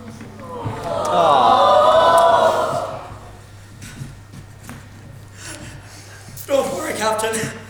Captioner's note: audience awws; audience gasps; Hook quietly sobbing